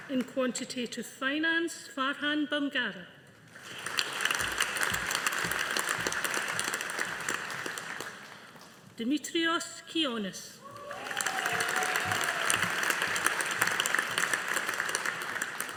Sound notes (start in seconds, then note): 3.5 audience applauding; 10.7 audience applauding